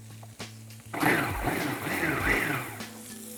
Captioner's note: whirring